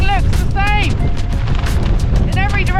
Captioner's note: wind